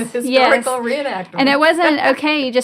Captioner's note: laughs